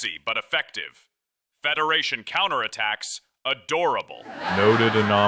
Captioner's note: big laugh